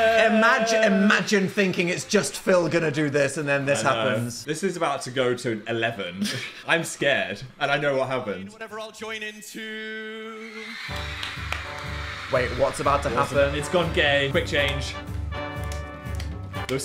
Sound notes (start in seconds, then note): 10.4 crowd screaming and cheering; 15.6 upbeat music